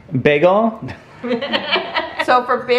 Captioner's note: laughing